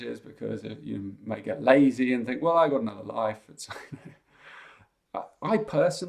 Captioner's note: chuckles